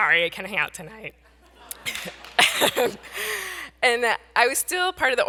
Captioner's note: audience laughs